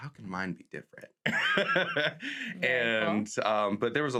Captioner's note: laughs